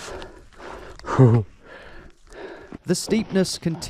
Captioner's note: shudder